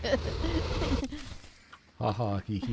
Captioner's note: laughs